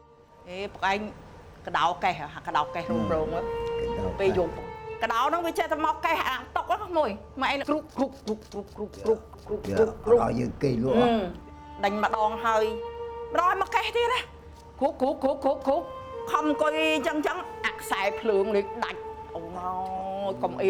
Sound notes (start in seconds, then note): 7.4 scratching sound